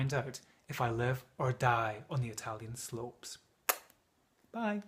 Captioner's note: kisses